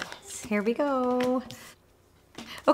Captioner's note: cards shuffling